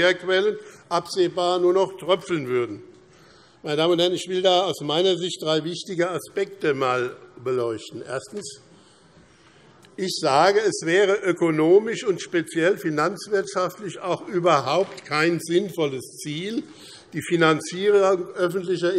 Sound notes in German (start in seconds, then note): none